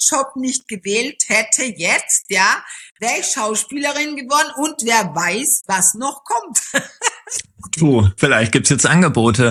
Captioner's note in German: gelächter